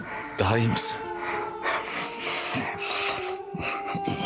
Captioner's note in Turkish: Hızlı soluma sesi